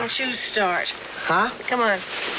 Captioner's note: sighs